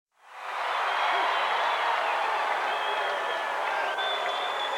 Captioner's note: crowd cheering